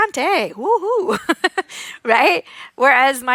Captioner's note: laughs